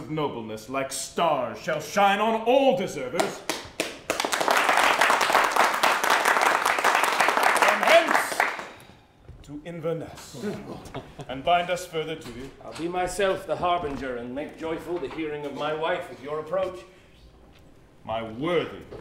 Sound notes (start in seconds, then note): 3.2 applause; 10.4 laughter